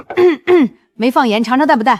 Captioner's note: cough